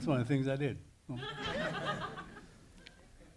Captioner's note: audience laughing